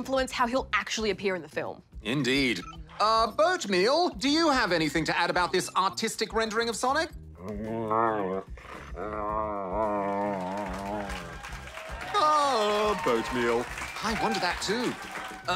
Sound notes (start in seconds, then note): 7.3 grumbles; 9.8 cheering, applause